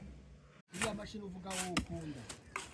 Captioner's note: chatting in Kinyarwanda